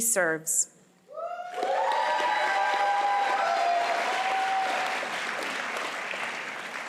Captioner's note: cheering and applause